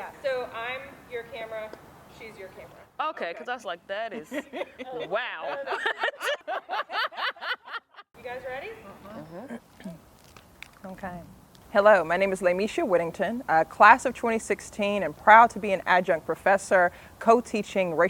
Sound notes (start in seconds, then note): 4.2 laughter